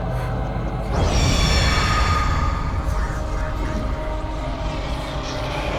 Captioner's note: demonically screeching